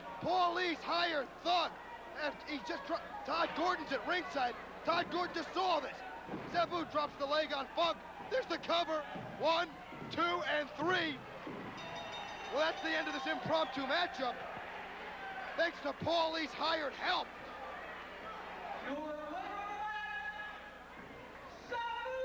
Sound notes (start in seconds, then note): 11.7 bell ringing; 12.0 crowd cheering